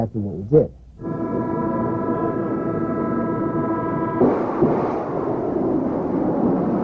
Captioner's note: machinery humming; missile firing